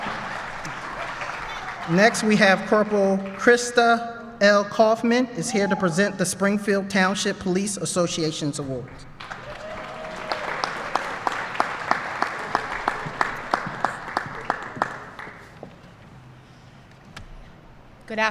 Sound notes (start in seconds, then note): 14.4 applause